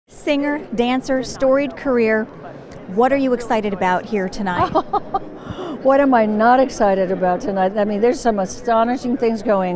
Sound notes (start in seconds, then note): 4.5 laughing